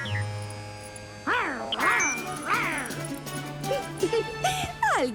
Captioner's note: snarling; laugh